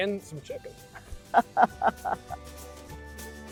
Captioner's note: laughter